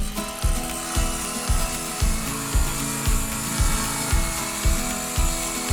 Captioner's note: upbeat music; wood sawing